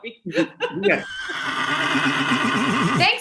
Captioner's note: horse neighing